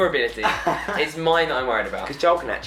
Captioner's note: laughing